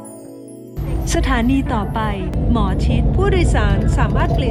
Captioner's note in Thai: เสียงประกาศ bts